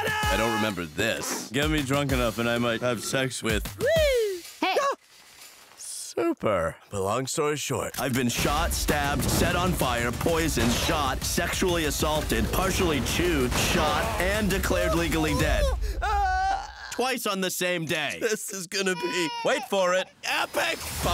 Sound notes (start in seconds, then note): 16.3 moans